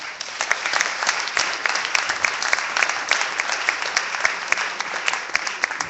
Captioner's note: clapping